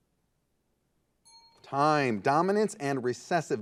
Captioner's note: timer beeping